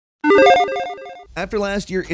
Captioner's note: logo beeping